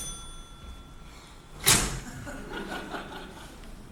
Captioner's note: cash register "cha-ching"; Horace exhales; slams door shut